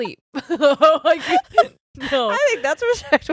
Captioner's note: giggles loudly